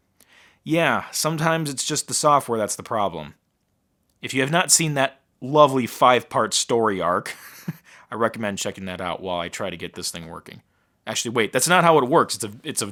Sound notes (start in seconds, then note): 7.3 laughing